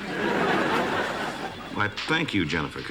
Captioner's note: laughter